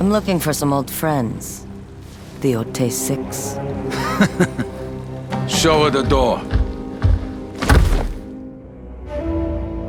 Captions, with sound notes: "I'm looking for some old friends." "The Yōtei Six." "[Laughing] Show her the door."